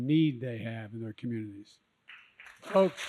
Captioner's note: applause